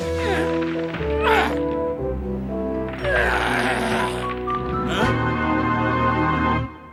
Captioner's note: grunting